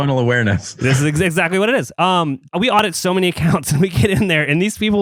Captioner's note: laughs; laughs